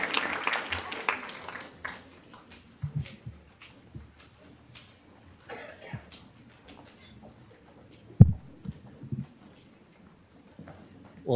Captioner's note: applause